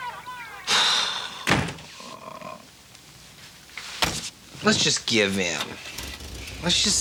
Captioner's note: heavy sigh